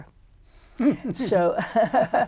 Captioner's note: laughter